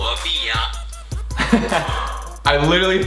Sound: laughs; sighs

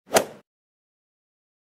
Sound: swoosh

